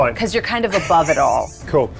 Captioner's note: laughs